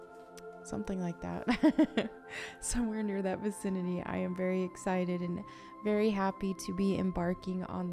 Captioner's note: laughs